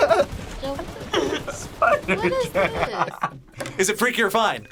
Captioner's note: laughs